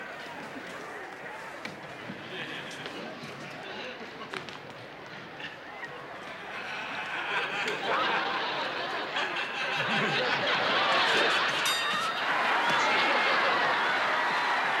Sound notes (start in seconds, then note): 9.4 laughter; 11.5 bell rings; 12.4 cheering